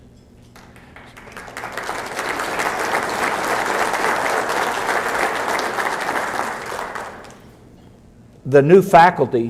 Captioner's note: applause